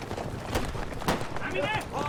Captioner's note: gunshots